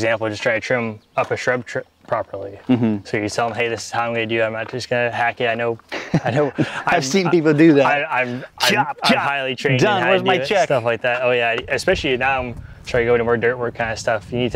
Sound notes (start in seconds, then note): 5.8 laughs